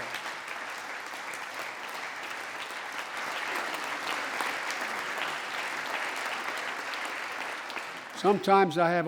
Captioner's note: applause